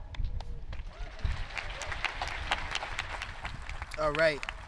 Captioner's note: audience clapping